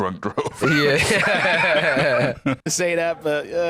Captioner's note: both laughing